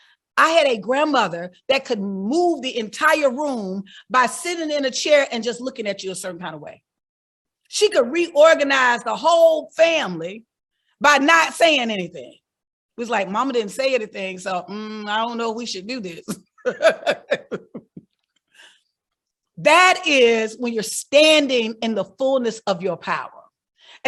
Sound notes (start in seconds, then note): 16.6 laughing